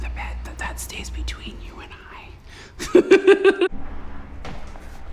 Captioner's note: laughter